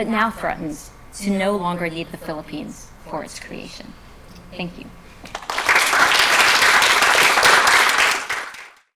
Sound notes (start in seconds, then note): 5.2 applause